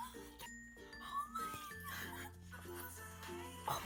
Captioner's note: crying